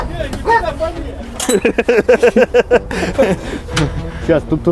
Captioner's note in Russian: смех